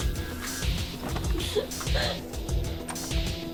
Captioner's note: crying; door knob turning